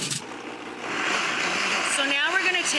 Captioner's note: blender roars